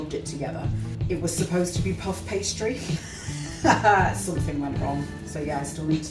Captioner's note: laughs